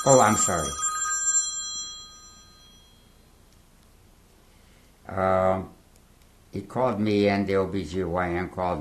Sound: pauses for 6 seconds

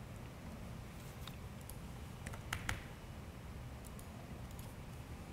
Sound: keyboard typing

